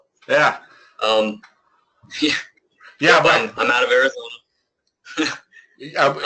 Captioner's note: laugh